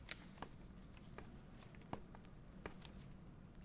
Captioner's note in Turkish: Ayak sesleri